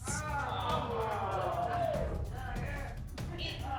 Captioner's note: audience exclaims